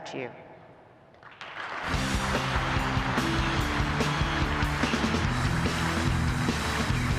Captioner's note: audience applauds; upbeat rock music